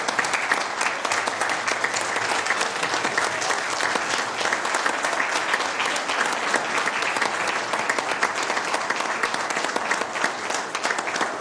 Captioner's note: applause